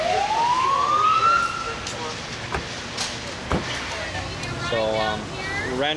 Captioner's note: ambulance siren